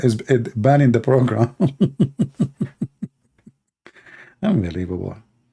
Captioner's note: Ketawa